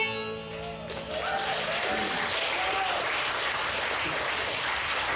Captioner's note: audience applauds